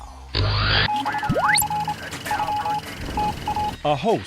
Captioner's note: sound Effects